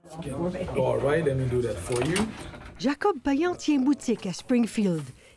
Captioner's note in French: discussion en anglais